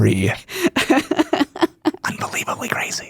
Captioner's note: laughs